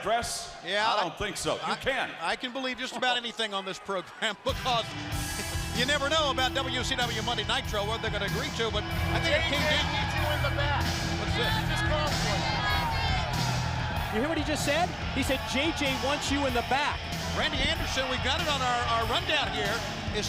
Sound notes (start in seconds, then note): 9.9 crowd chatter